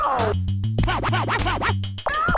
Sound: disc scratching

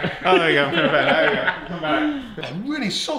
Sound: all laugh

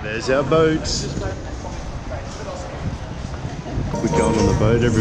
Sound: crowd murmuring

